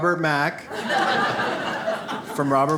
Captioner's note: audience laughs